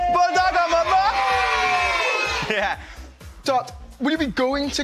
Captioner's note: cheering